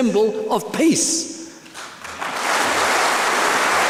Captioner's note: applause